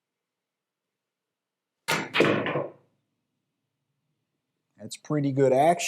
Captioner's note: balls clacking